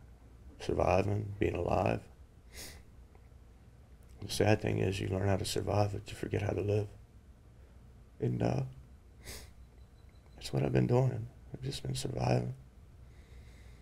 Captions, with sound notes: Surviving, being alive? (sniff) The sad thing is you learn how to survive it, but you forget how to live. And that's what I've been doing, I've just been surviving.